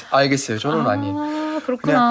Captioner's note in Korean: ㅋㅋㅋㅋㅋㅋㅋㅋㅋㅋ